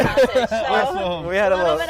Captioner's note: laughs